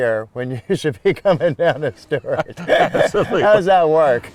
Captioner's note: chuckling